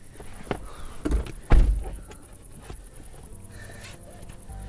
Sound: door clunking; door slamming

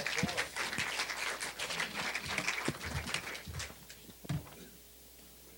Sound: applause

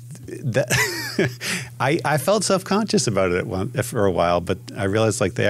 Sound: laughs

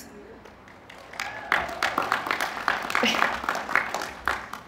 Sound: applause

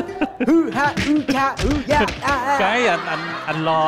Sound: fighting sound

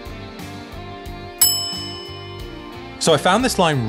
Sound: bell dings

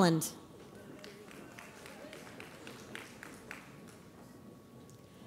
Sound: audience applauds

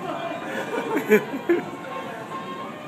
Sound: giggles

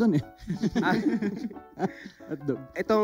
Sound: laughs

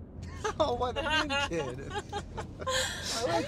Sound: Alex and Cassidy laughing

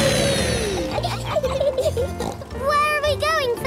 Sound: laughs and snorts

